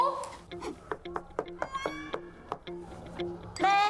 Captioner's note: knock x6